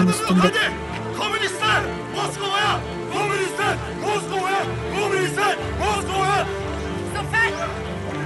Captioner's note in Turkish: Hep bir ağızdan